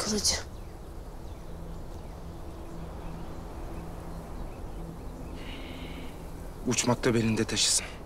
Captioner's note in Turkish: Kuş sesleri